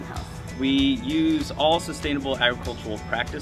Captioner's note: voiceover